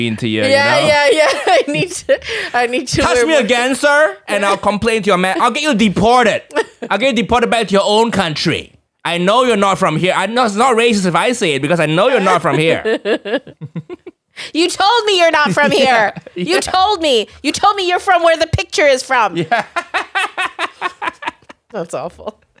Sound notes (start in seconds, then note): 13.8 laughter; 19.4 laughing